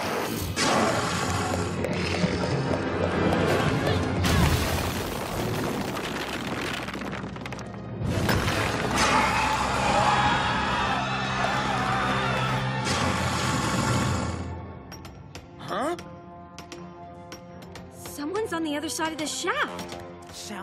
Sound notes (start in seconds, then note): 4.2 crashing; 11.4 growling; 15.2 tapping